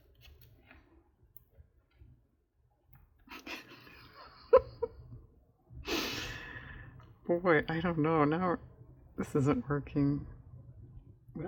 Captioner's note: laughs